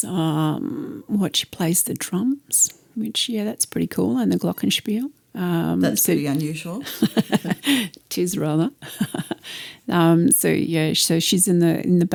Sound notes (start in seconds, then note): 6.8 laughter